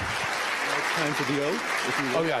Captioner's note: applause